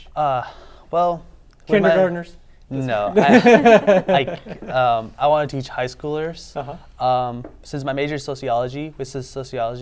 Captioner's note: laughing